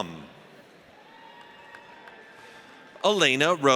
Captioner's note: audience cheers